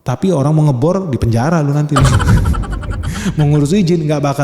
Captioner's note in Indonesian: tertawa